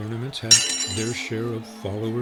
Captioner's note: horseshoe clinks